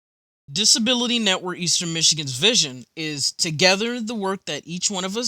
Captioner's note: voiceover